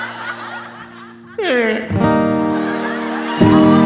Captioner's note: audience laughing; Trixie moans; audience cheering; audience applauding